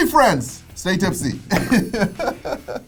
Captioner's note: laughs